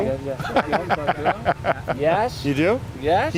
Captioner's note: laughs